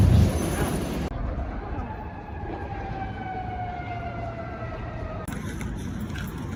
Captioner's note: siren sounds off in the distance